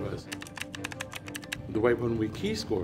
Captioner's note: computer keys clicking